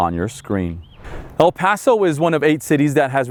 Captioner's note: air whooshing